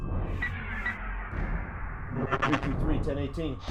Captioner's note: radio beeping